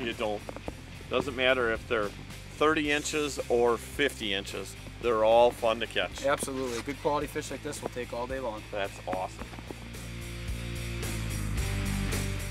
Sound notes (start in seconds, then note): none